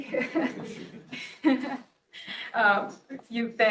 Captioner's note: laughs